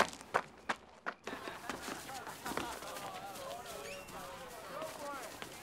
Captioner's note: students laughing and chattering